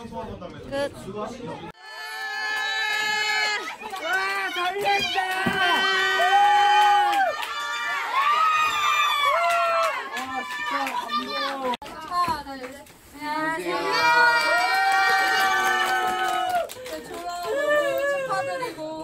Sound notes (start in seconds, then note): 8.2 screaming